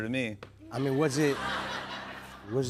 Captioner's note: laughter